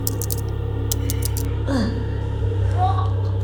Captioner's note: crashing